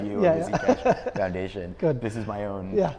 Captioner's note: laughs